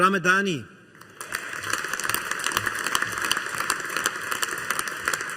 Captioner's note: audience applauding